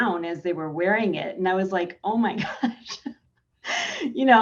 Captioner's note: laughing